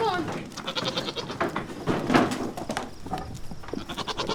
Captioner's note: goat bleating